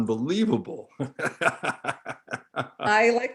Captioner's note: laughing